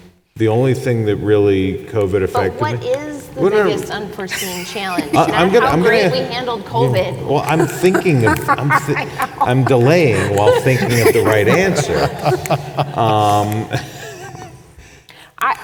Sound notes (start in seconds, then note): 8.7 laughs; 14.1 panel laughs